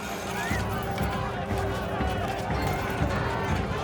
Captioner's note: crowds yelling